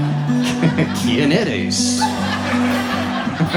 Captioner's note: audience laughs; speaking Spanish; audience laughs